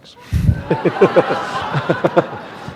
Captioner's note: laughter